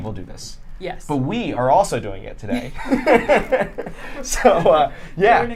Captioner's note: laughing